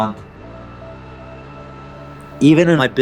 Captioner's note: bike engine revving